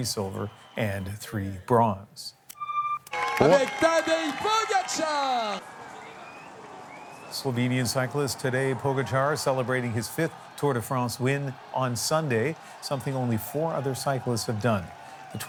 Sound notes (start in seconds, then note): 3.1 applause